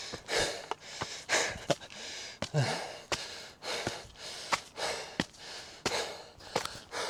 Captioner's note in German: hecheln; japst; seufzt; hecheln